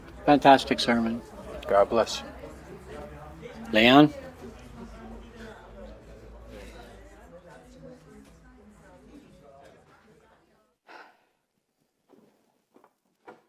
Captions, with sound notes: Fantastic sermon! God bless you! Leon. [indistinct chatter]